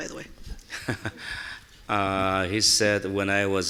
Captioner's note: chuckles